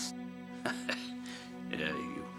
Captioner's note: chuckling